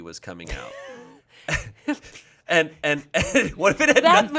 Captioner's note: laughs